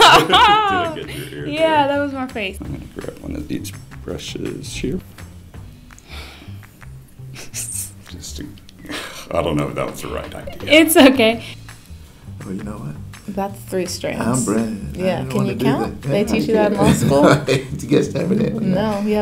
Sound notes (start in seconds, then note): 0.0 laughs; 5.4 chuckles